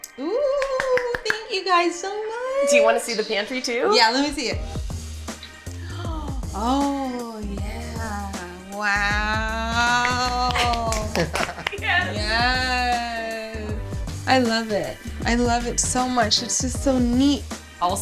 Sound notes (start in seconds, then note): 5.6 gasps; 10.4 laughing